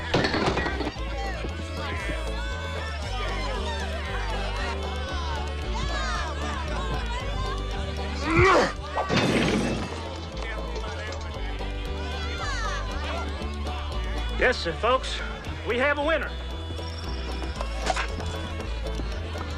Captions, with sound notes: (bottles clinking) (Eli grunts) (bottles shatter) - Listen, folks, we have a winner.